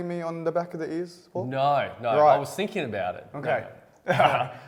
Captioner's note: laughs